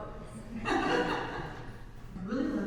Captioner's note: laughs